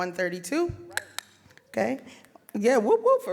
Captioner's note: tongue clicks